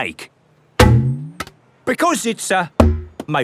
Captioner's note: thunks